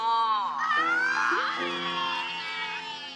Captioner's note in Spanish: Gritos y exclamaciones